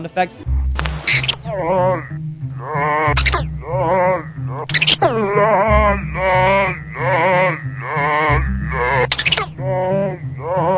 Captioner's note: Unknown Tattletail Sound Effects